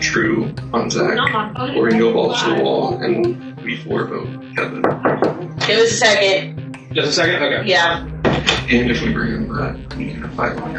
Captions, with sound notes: On Zach or we can go balls to the wall And we four vote Kevin. [Knocks] Give us a second. Just a second, okay. Yeah.